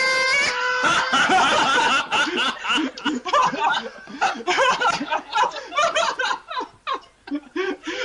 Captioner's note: laughter